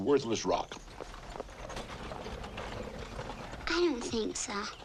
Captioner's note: wagons rattling faintly